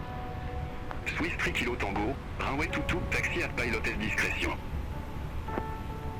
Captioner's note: speaking in foreign language